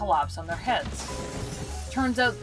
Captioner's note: crash